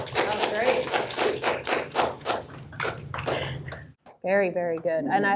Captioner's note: applause